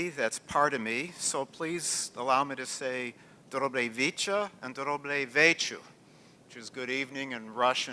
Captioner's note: non-english speech